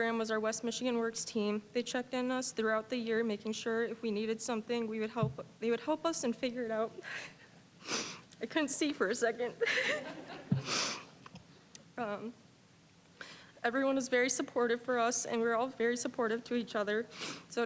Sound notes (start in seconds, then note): 9.6 all chuckling; 10.5 sniffling